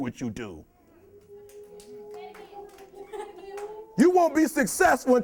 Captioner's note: audience clapping and cheering